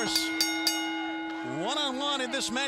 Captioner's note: bell ringing